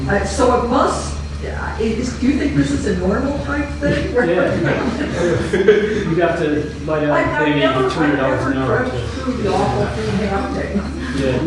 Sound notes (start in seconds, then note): 3.8 laughs